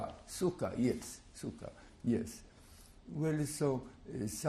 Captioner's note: non-english